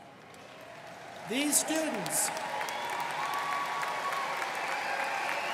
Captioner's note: students cheering and applauding